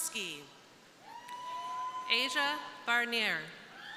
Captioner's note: crowd cheering